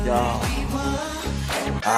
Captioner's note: snap